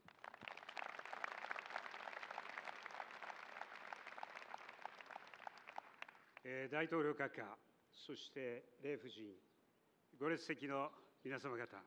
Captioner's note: applause